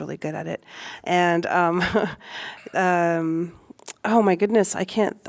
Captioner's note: laughter